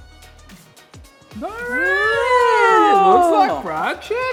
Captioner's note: both screaming joyfully